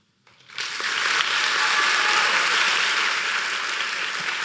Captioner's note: applause